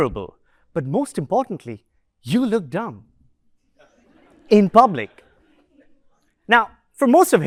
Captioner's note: laughter